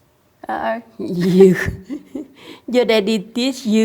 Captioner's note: laughs